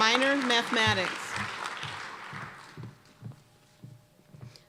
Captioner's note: applause